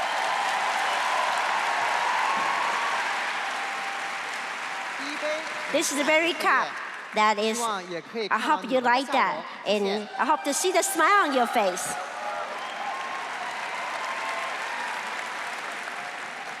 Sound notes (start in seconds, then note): 2.4 crowd cheering